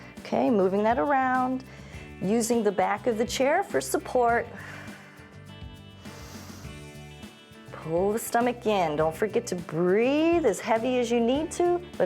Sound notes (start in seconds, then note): 5.9 exhales; 5.9 inhales